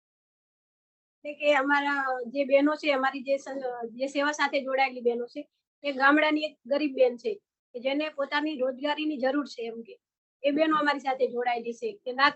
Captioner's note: non-english speech